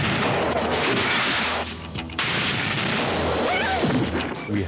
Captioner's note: booming explosion; gun blasts; actress screams